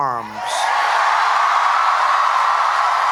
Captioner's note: applause